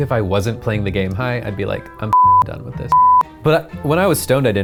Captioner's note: beep